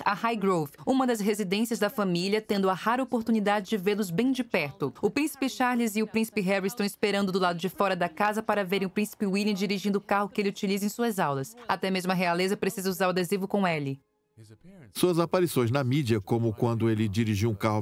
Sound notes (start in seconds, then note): 13.6 voiceover